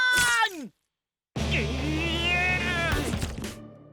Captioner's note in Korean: 짜증의 탄성